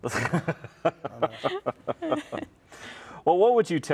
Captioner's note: laughing